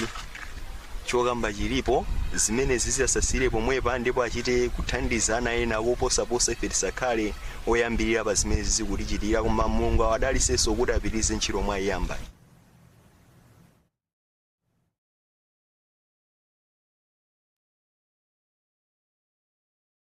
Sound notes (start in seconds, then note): 11.1 speaking in a global language